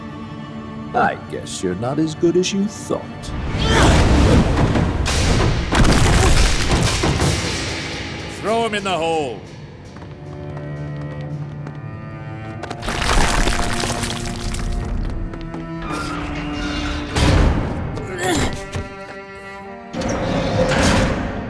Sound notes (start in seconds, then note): 12.8 crumbling; 16.5 door opening; 18.0 groaning; 20.0 door shutting